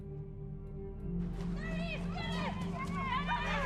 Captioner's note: crowd